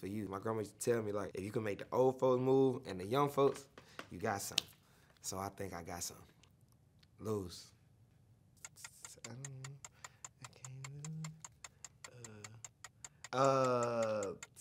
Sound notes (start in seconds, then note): 8.6 timer ticking